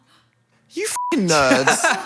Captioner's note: beep